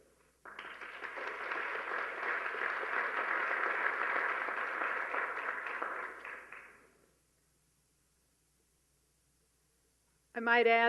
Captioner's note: applause